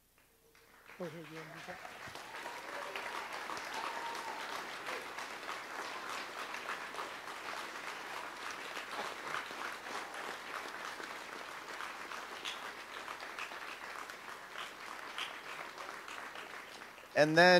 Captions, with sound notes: - Do you wanna use that? (audience applauds)